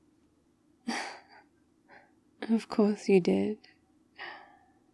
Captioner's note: laughs